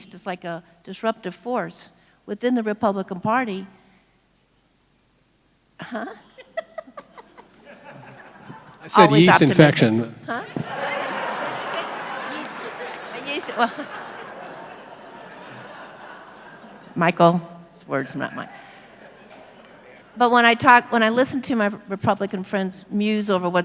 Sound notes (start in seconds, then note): 5.8 laughs; 10.3 audience laughs; 15.6 laughs